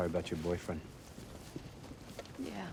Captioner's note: footstep